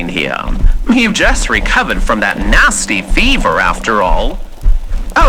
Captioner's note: walking on carpet fx, fire fx